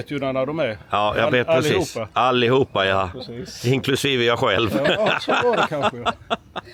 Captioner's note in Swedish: skratt